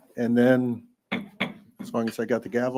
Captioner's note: gavel bangs